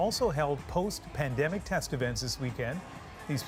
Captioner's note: cheers and Applause